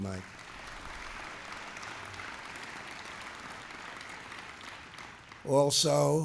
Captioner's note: applause